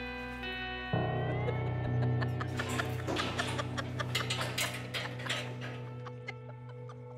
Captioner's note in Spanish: carcajadas